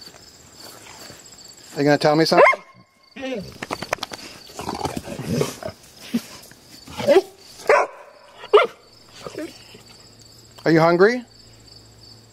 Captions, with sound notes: Are you gonna tell me something? (dog barking) (dog yapping and barking) Are you hungry?